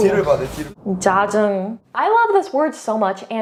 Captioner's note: character speaks in Korean; whooshing sound; speaking in Korean